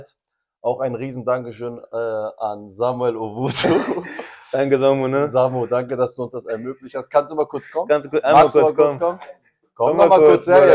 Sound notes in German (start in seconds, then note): 3.5 gelächter